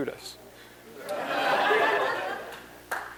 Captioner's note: laughter